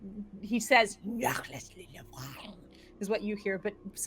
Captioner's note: speaks gibberish